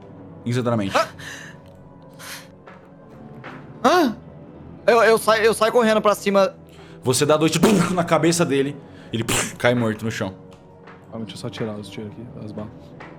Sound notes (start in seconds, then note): 7.6 pow; 9.2 splat